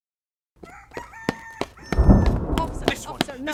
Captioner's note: rooster crows